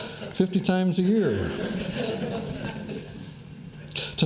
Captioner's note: laughter